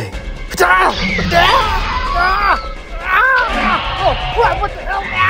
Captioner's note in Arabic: قناص يتألم; هرمس يصرخ